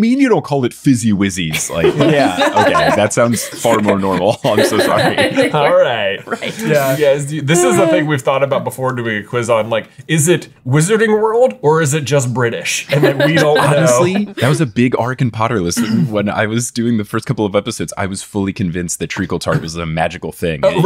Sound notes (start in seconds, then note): 1.6 everyone laughing; 12.9 laughing; 15.7 clearing his throat